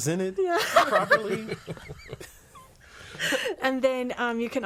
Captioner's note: all laughing